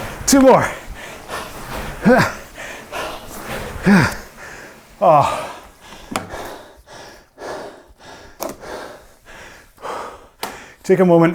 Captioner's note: breathes heavily